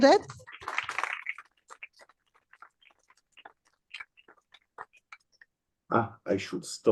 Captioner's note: applause